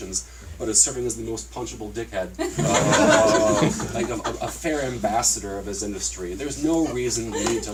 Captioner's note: laughter